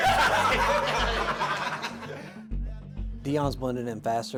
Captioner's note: laughter